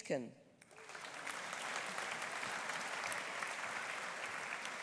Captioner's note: audience applauding